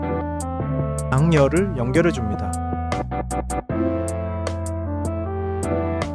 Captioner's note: speaking foreign language